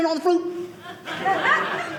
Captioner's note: audience laughing